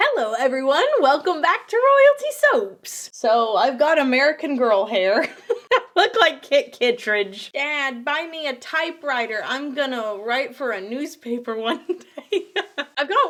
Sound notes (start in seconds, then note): 5.2 laughs; 11.7 laughs